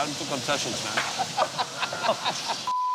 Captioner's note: laughing